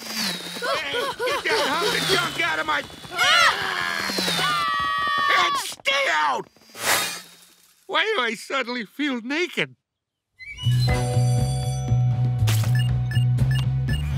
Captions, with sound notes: Hey, get that hunk of junk out of my- [screaming] And stay out! Why do I suddenly feel naked? [bell ringing] [beeping]